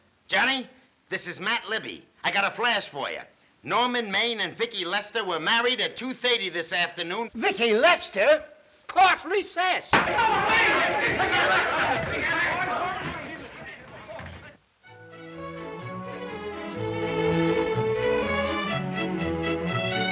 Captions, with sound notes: Johnny, this is Matt Libby. I got a flash for ya. Norman Maine and Vicki Lester were married at 2:30 this afternoon. Vicki Lester? Court recess. [indistinct chatter] [instrumental music]